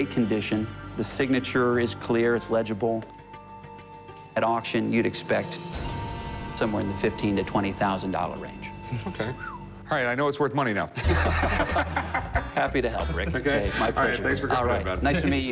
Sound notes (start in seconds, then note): 9.4 whistles; 10.9 laughter